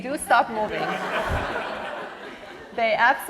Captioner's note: laughter